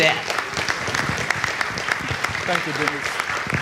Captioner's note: audience clapping